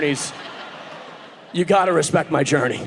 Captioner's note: audience laughing